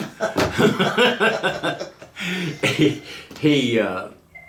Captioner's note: laughing